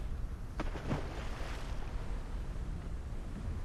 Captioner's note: splash